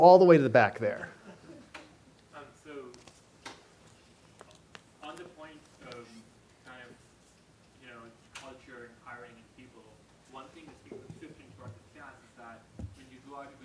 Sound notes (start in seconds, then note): 6.3 voiceover